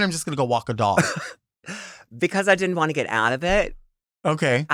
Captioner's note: chuckles